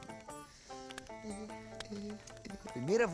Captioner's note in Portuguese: cantarolando